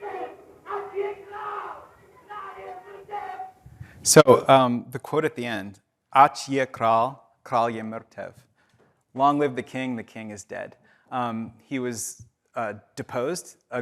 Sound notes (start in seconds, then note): 0.1 participant speaking in foreign language; 6.3 speaking in foreign language